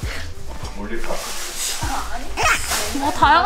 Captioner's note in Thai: ชู่ว